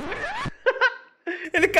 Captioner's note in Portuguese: risos